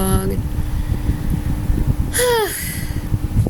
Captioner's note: sigh of relief/frustration